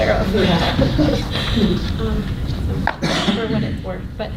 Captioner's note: laughter